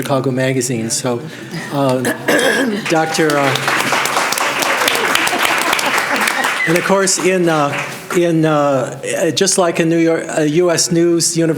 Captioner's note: applause